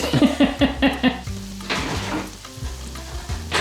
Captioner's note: woman laughs